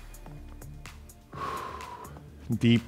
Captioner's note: upbeat music; breaths heavily